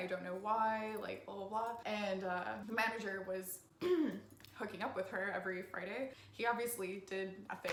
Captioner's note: cough